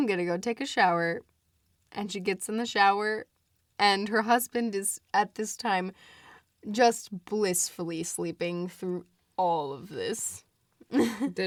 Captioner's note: laughs